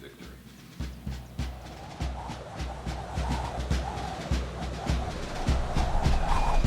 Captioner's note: drums beating; wind whistling